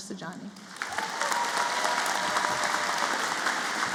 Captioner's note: applause